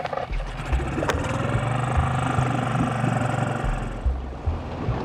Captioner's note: boat engine running